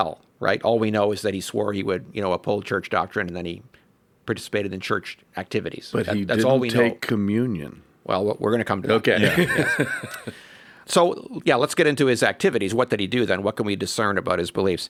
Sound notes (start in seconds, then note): 9.2 laughs